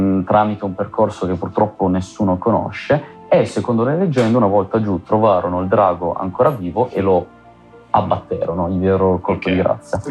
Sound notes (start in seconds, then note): none